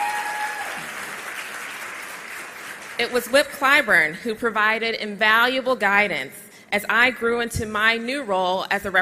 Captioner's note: applause